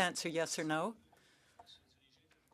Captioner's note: speaking French